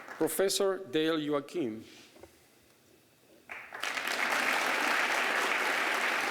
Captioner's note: applause